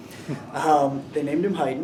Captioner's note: interviewer laughing